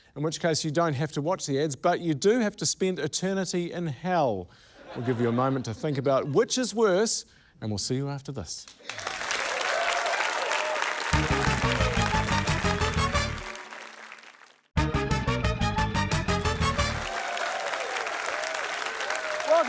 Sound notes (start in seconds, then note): 8.8 cheering, applause; 10.8 upbeat fanfare; 18.1 cheering, applause